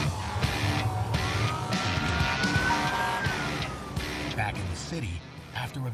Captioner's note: siren wailing, air horn honking